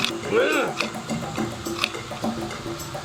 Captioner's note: Og grunting; upbeat music